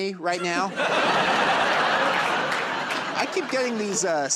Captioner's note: laughter and applause